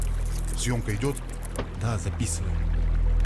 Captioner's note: voiceover